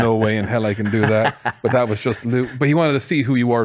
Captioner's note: laughs